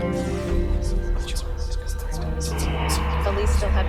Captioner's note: eerie whispering